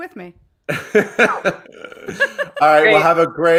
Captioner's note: laugh